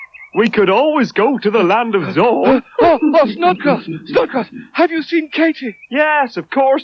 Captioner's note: Barrel Chuckles